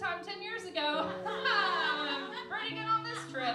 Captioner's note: laughing